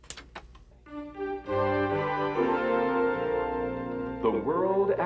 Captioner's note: click click